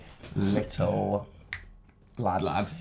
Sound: snap

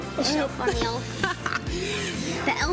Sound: laughs

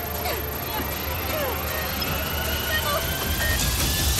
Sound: grunts

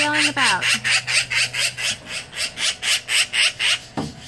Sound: magpie continuing to squawk loudly

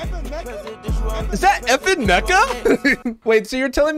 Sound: laughs

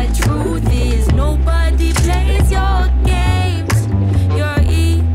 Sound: sound of room being sped up

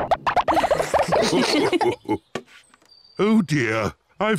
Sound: all laugh

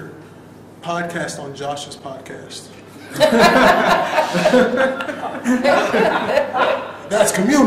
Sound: laughter

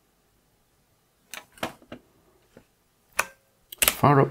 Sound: blank Audio

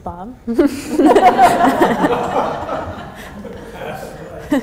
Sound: laughter

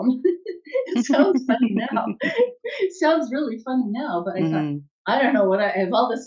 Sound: both chuckle

